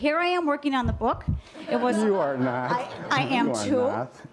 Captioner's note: laughter